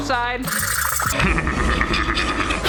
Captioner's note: file scraping; laughing maniacally